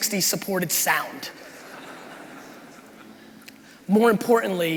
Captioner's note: crowd laughing